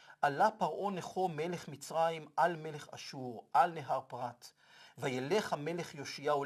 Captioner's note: Hebrew